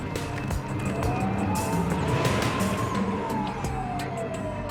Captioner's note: sirens